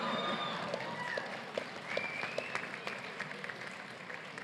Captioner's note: applause